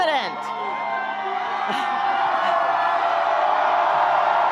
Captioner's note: audience applauding